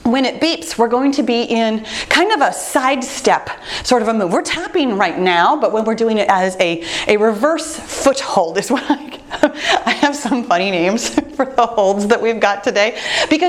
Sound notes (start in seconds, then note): 8.7 laughing